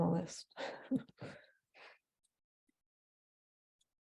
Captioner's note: chuckling